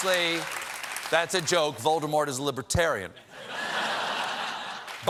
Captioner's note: applause